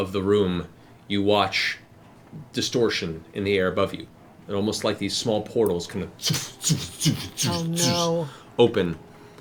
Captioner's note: multiple fwooshes